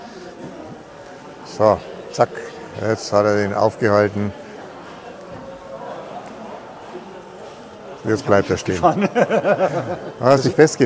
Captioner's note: laugh